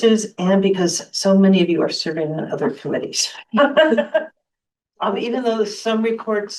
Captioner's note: laughter